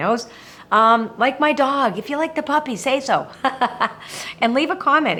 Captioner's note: laughing